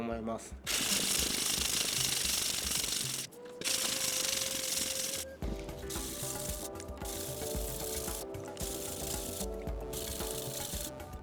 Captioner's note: sound of grinding the back side